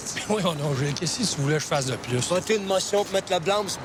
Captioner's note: biker speaking foreign language; Roots speaking foreign language; biker speaking foreign language